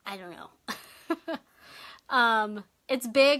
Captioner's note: laughs